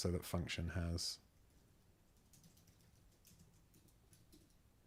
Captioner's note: silence